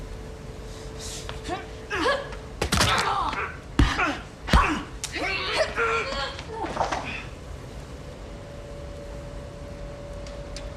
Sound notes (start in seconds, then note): 2.9 bone cracking; 3.8 fighters grunting